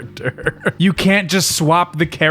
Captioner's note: chuckle